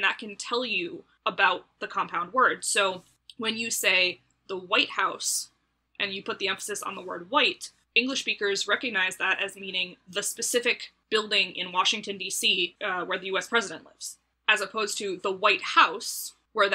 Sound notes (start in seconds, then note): none